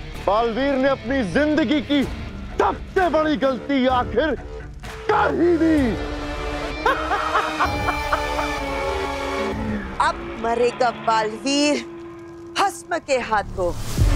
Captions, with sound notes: Baalveer finally made the biggest mistake of his life. [cackles] Now, Baalveer will die at the hands of Bhasm.